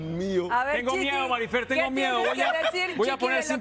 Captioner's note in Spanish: risas